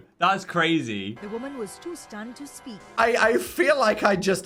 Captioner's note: automated Voice